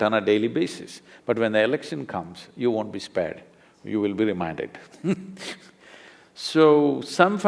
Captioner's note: laughs